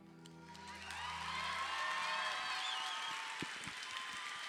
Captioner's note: audience cheering